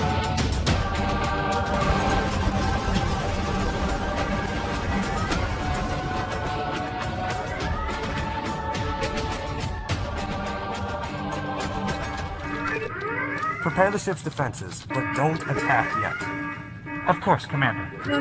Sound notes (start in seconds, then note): 0.7 crash, alarms blaring, music continues; 11.5 alarms continue, music fades